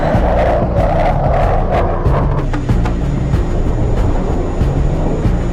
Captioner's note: dramatic music; jet engine roaring